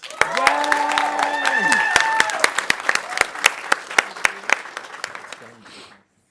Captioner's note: audience applauding